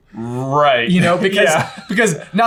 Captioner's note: laughs